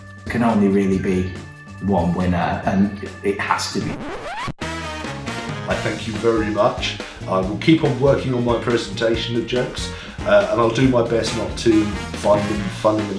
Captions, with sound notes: - Can only really be one winner, and it has to be- (record scratch) - I thank you very much. I will keep on working on my presentation of jokes, and I'll do my best not to find them funny